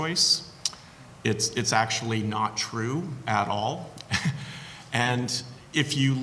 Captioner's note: chuckles softly